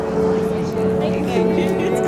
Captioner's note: murmuring